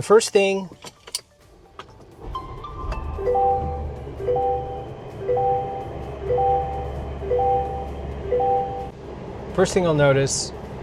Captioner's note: start up sounds